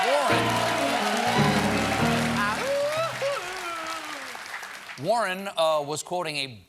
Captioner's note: cheers and applause; piano riff